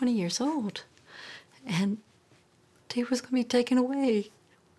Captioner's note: voice breaking; normal voice